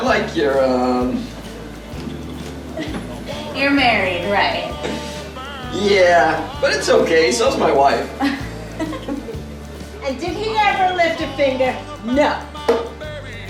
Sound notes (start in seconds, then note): 8.0 both laughing